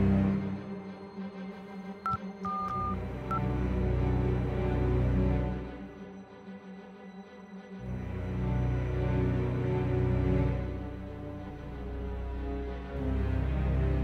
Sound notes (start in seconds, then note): 2.4 phone beeps; 8.3 suspenseful music